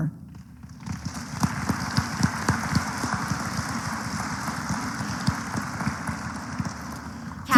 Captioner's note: applause